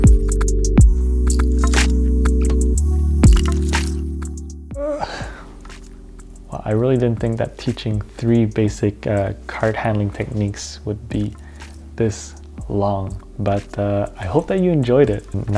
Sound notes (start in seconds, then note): 4.7 yawn